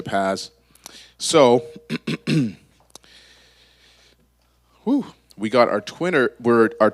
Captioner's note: clears throat